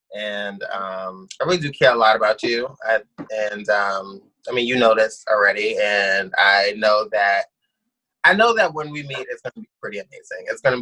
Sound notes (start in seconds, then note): none